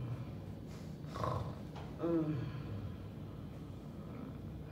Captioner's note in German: Schnarcht